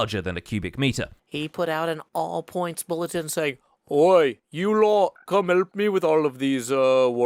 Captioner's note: fake accent